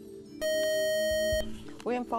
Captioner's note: buzzer